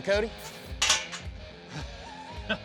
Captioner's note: metal gate clangs shut